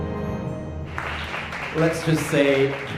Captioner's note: dramatic music; audience clapping